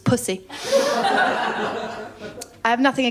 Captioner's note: laughter